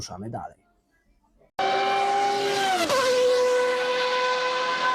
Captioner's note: F1 sound